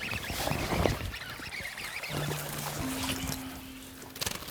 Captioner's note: reel spinning